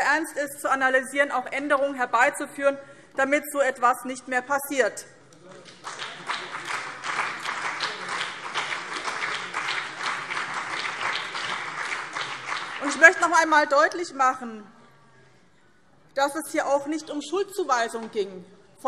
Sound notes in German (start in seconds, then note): 5.4 Beifall BÜNDNIS 90/DIE GRÜNEN und CDU